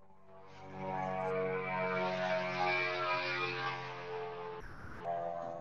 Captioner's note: airplane noise